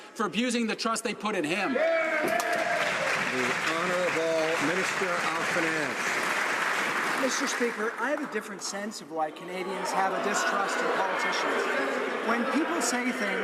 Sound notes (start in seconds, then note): 5.5 some Applause